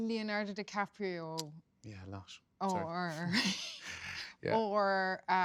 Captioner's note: laughs